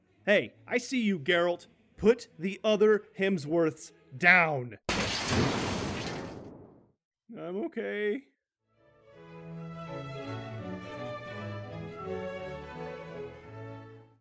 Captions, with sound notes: Hey, I SEE you Geralt. Put the other Hemsworths DOWN! *Crash Sounds* I'm okay...